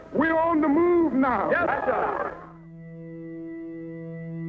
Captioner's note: voiceover